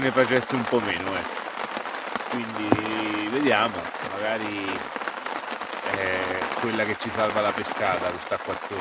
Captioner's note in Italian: Applauso